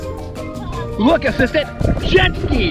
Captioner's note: assistant chuckles